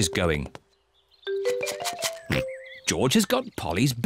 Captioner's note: rattles seed